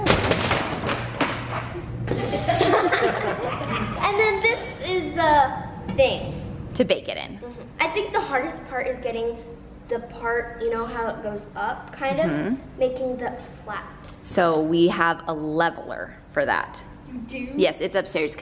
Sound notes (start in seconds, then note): 0.2 turntable falls; 2.1 all laugh